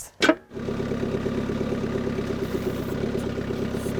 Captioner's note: engine roaring